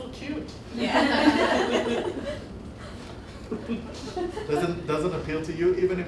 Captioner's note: laughter